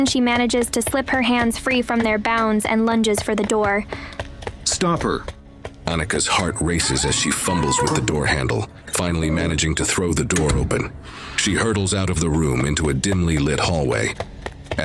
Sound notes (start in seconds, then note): 4.9 shouting